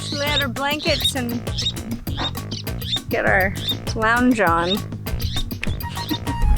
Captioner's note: laughs